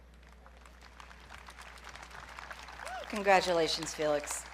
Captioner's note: audience clapping